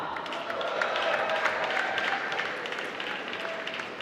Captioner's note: applause